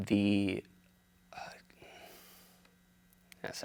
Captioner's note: sighs